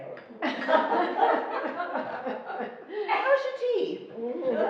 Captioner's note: laughing